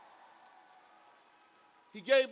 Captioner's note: cheers and applause